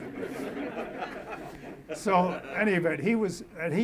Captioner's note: audience laughs